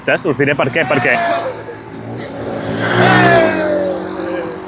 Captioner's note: motorcyclists pass by shouting